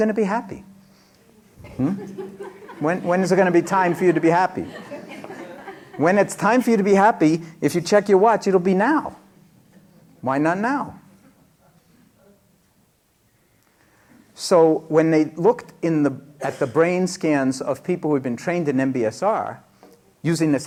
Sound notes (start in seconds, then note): 1.6 laughter